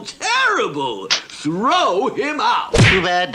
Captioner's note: splat!